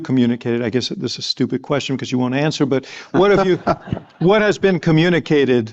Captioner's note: laughter